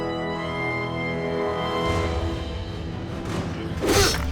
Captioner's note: sounds of struggle